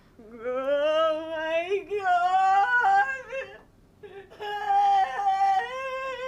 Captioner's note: wailing